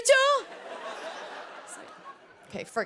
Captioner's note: laughter